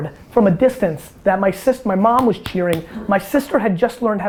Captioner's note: hands clap